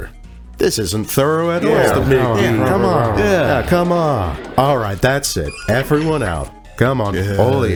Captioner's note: rabble rabble